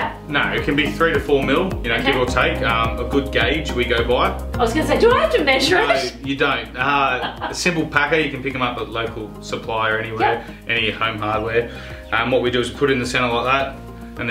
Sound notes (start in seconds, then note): 7.0 laughing